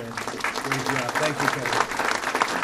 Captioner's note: applause